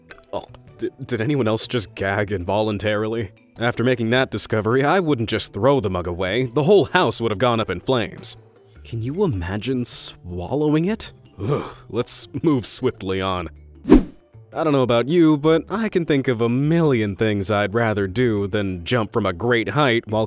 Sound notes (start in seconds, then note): 13.8 image whooshing